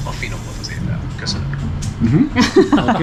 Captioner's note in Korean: 헝가리어